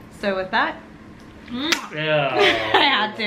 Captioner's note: kiss